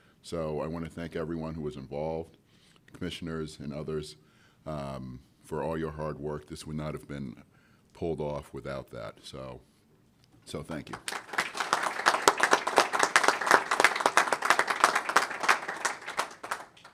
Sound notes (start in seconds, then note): 10.8 applause